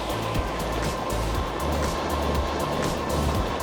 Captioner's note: wind rushes past